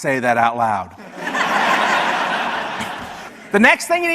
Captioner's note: audience laughs